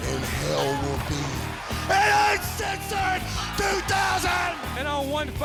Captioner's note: crowd cheering